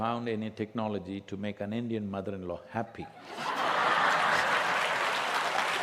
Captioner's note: laughter/Applause